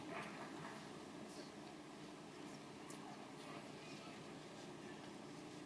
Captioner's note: audience lightly applauding